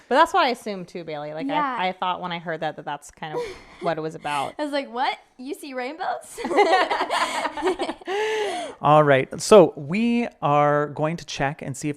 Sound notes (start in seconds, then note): 6.4 chuckling; 6.4 laughing